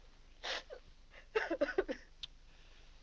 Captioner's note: weeping